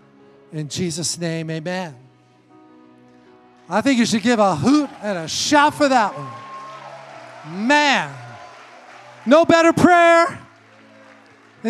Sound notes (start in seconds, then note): 6.2 congregation cheers